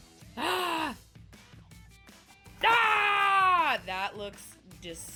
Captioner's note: groaning loudly